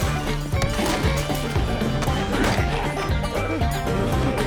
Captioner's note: glass shatters; blows thud